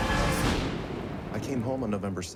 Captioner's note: boom